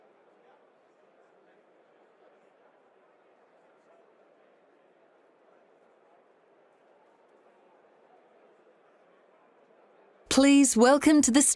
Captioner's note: silence